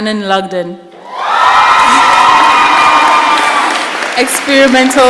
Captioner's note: shouting and applause